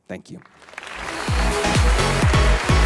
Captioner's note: audience applauds; upbeat music